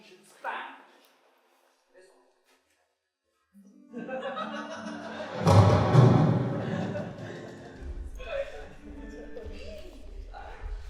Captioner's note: thunder booms